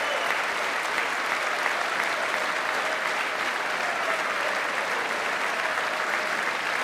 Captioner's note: applause